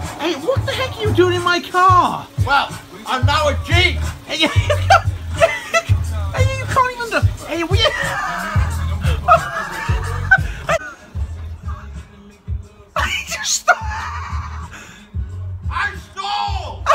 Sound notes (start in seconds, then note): 5.4 laughing; 7.6 Ben laughing hysterically; 12.9 laughing